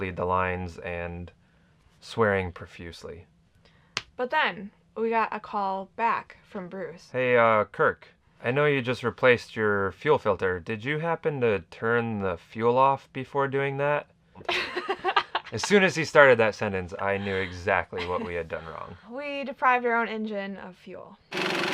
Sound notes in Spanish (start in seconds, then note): 14.5 riendo; 21.3 motor en marcha